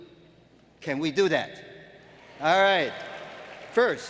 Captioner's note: applause